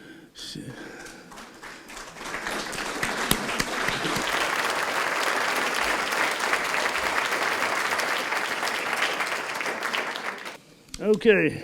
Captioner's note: applause